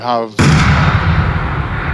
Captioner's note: bang